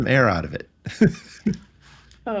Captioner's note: laughing